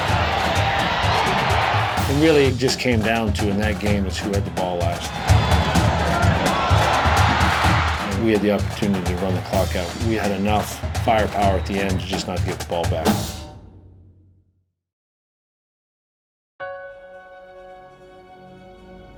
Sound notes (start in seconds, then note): 5.7 cheering; 14.8 light music